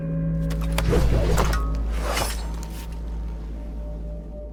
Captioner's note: sword swooshes